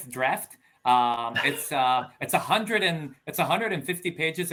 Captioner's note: laughing